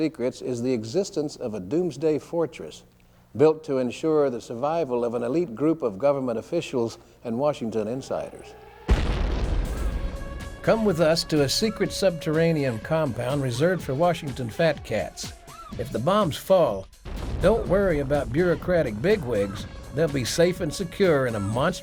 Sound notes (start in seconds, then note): 9.5 air raid siren wailing; 10.6 explosion booming